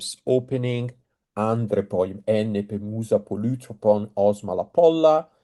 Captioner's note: speaking Greek